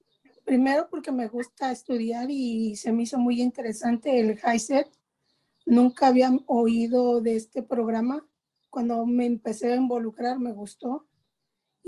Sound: speaking spanish

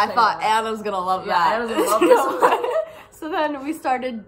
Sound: laugh

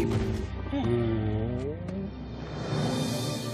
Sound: sighing

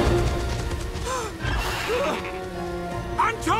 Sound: whimpering

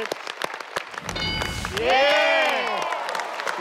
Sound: bell sound

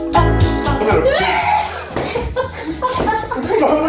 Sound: screams

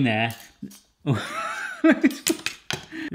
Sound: laughs

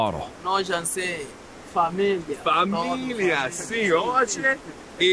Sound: speaking in foreign language

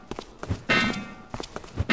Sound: metal clang

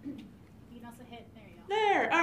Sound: voiceover

